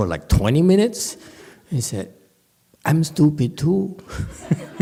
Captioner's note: laughs